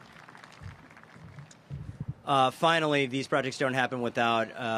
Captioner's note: applause